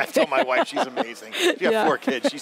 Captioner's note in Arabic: يضحك